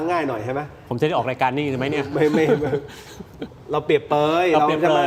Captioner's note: laughter